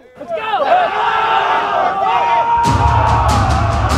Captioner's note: yelling